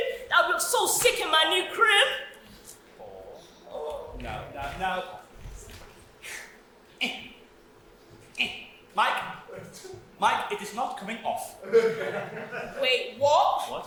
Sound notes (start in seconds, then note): 5.6 slight grunts of effort; 11.6 audience laughs